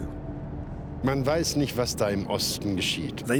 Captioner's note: speaking German